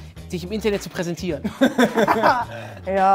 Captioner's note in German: Lachen